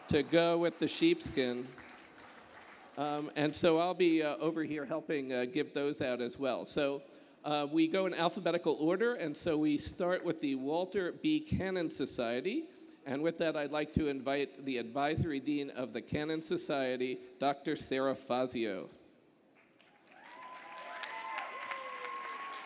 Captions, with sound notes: to go with the sheepskin. And so I'll be over here helping give those out, as well. So we go in alphabetical order, and so we start with the Walter B. Cannon Society. And with that, I'd like to invite the advisory dean of the Cannon Society, Dr. Sara Fazio. [APPLAUSE]